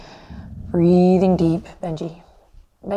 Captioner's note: Benji growls softly